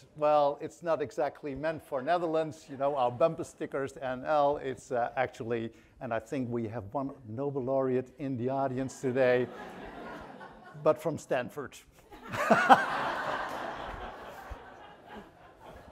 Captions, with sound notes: "Well, it's not exactly meant for Netherlands. Our bumper stickers, NL, it's actually," and I think we have one Nobel Laureate in the audience today (audience laughing) but from Stanford. (laughs) (audience laughing)